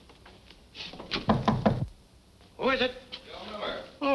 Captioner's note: knocking